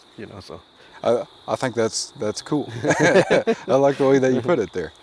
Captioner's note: both laugh